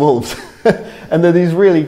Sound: laughs

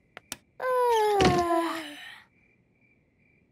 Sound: both yawning; light clicks

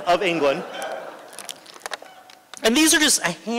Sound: laughter

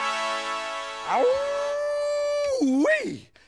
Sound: trumpets blow; howling

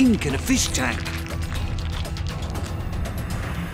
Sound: death wave dies down

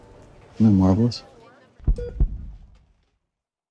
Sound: heartbeat

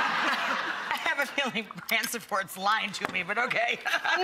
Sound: laughing

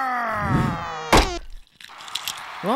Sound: thump-squash

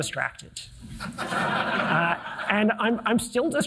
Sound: audience laughing

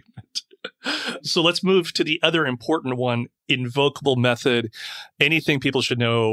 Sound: laughing

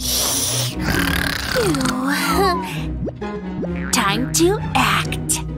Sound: snoring

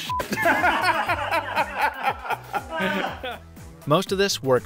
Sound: laughing

